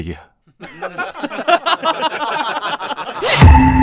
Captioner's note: mocking laughter